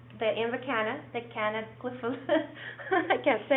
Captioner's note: laughs